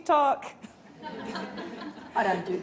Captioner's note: laughing